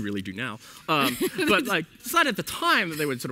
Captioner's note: laughs